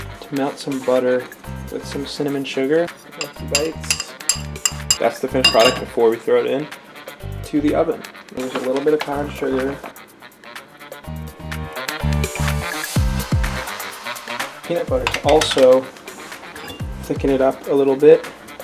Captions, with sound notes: To melt some butter with some cinnamon sugar. Got some bites. (spoon clanging) That's the finished product before we throw it into the oven. I'm gonna use a little bit of brown sugar. (upbeat music) Peanut butter to also thicken it up a little bit